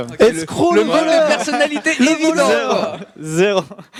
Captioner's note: laughs